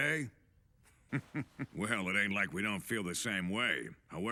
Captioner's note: chuckles